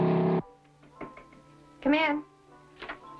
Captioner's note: light knocking